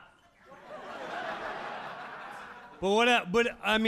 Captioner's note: audience laughing